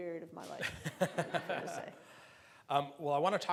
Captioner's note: laughing